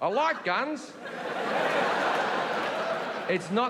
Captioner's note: audience laughing